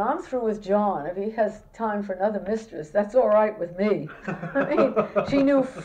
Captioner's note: laughter